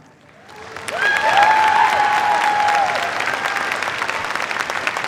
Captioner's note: cheers, applause